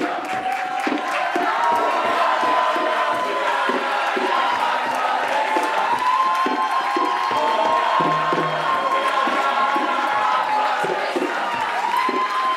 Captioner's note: clapping and cheering